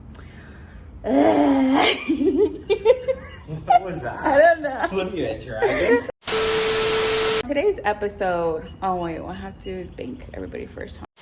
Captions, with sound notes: (laughing) - What was that? - I don't know. - What are you, a dragon. (static swooshing) - Today's episode... Oh, wait, well, I have to thank everybody first.